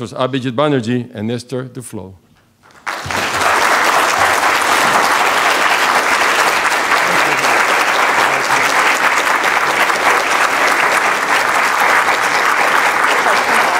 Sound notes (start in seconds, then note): 2.6 applause